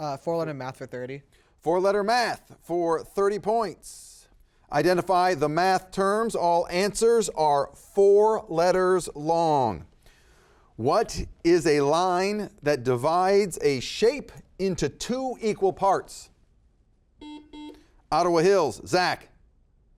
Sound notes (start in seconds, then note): 17.2 buzzer beeping